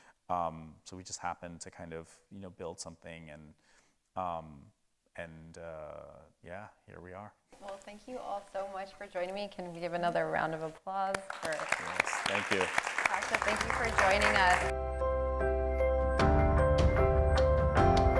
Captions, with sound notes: So we just happened to kind of, you know, build something, and yeah, here we are. - Well, thank you all so much for joining me. Can we give another round of applause for Kashif. - Yes. Thank you. (audience applauding) - Thank you for joining us. (bright music)